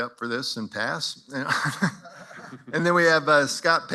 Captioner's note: chuckles